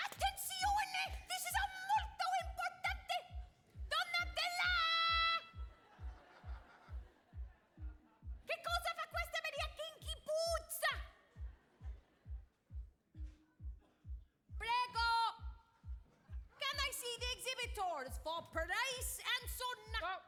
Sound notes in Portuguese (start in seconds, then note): 0.1 speaking Italian; 5.5 audience laughing; 8.6 speaking Italian; 12.7 upbeat runway music; 14.7 speaking Italian